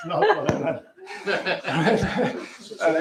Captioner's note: laughter